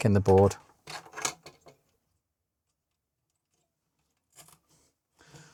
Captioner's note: silence